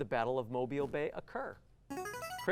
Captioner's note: buzzer